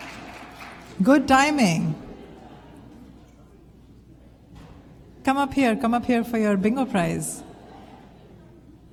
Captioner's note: applause